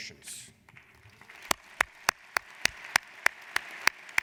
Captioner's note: applauding